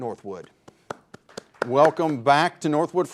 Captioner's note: host clapping